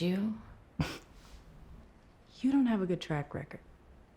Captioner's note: scoffs